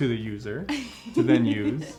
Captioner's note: laughing